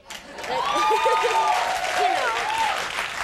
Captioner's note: audience cheers; Nancy laughs